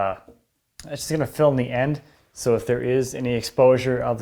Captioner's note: none